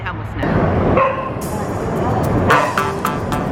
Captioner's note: dog barking; uptempo electronic music